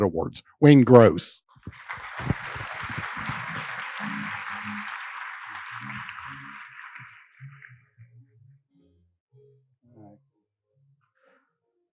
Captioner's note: applause